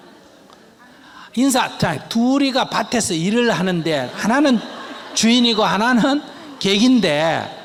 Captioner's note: audience Laghter